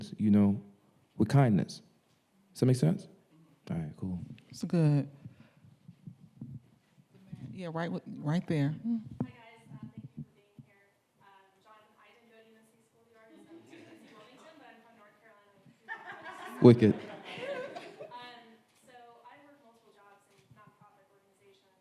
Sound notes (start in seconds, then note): 12.7 speaking faintly; 15.9 audience laughing